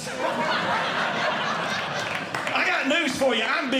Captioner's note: audience Laughing